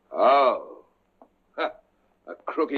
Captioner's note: chuckles